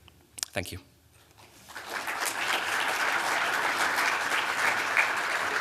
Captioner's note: applause